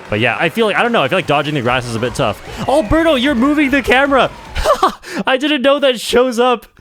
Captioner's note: laughs